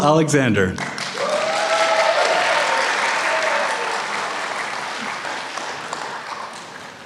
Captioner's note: applause